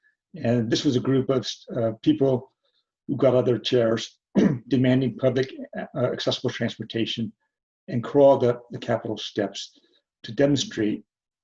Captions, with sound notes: And this was a group of, uh, people who got outta there chairs [CLEARS THROAT] demanding public, uh, accessible transportation and crawled up the capitol steps to demonstrate,